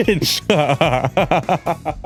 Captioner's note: laughs